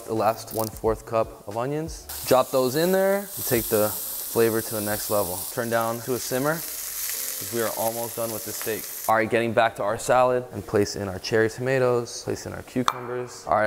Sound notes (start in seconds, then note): 6.7 pan sizzling